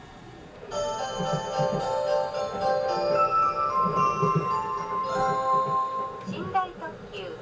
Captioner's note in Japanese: 毎度おなじみの ♪サンライズチャイムが鳴っています